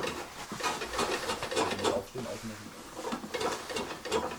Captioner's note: rumbling, clattering, snatches of conversation